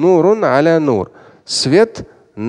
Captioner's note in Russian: Говорит на арабском